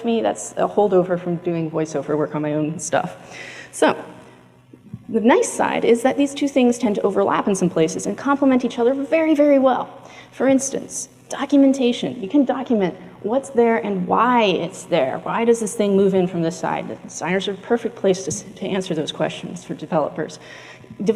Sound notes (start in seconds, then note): none